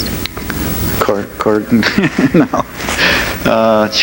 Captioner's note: laughs